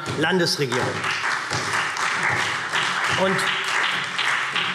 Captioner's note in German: Beifall SPD